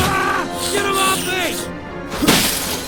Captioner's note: screaming; screams; POOPLOSER_69 grunts